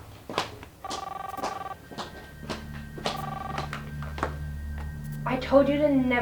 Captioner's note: cellphone ringing; suspenseful music